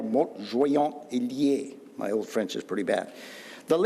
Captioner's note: speaking Old French